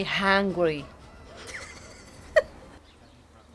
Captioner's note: chuckles